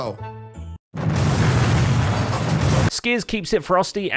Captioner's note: explosion